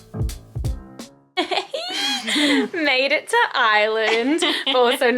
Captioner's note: giggling